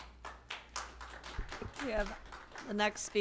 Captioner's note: applause